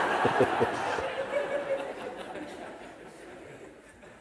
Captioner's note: laughter